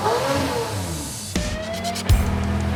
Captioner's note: engine revs